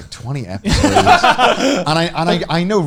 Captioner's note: laughing